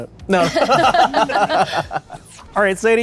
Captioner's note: laughter